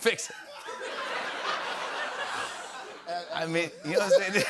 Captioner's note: laughter